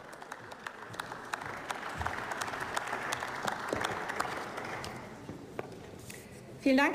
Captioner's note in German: Beifall